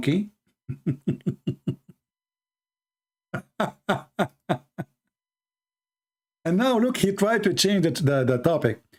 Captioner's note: Ketawa